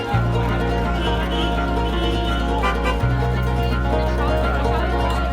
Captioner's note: car horns honking